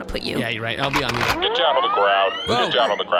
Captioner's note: C.L.I.N.T. racks rifle